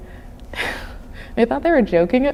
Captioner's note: chuckling